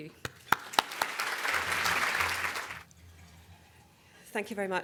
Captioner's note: audience Applause